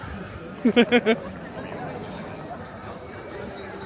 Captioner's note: laughing